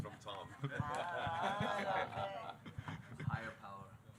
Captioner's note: audience members laughing